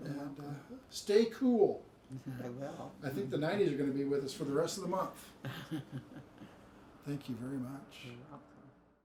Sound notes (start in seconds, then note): 5.4 chuckles